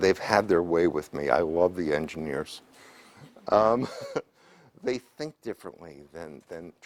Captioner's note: laugh